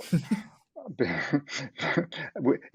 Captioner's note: laughs